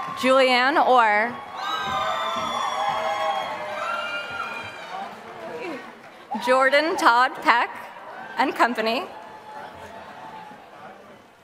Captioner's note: applause